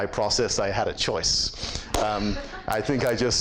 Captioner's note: laughs